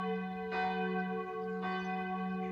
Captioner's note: bells